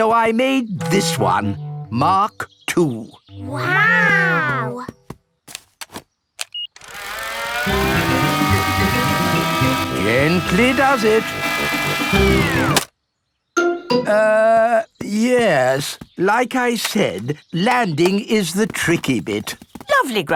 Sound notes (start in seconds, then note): 6.4 beeps; 6.8 plane humming; 12.5 humming stops